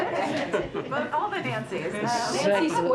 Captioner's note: laughter